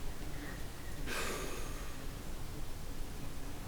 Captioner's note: too hot exhale